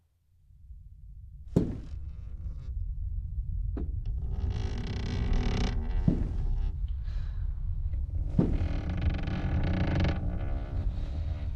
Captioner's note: footsteps